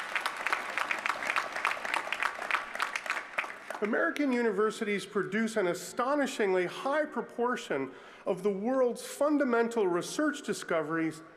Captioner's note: applause